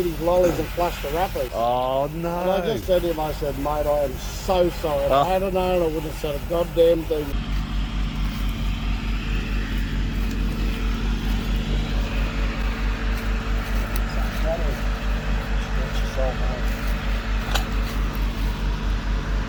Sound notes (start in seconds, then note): 8.0 machine whirring